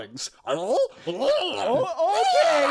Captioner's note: Imp noises